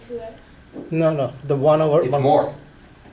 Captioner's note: voiceover